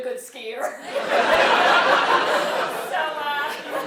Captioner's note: laugh